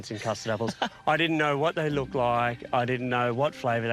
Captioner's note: chuckles